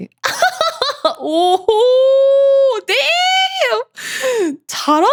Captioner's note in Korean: 웃음; 비명; 헉 소리